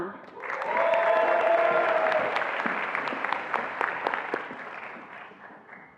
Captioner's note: attendees applauding and cheering